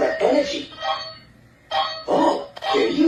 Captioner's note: beeping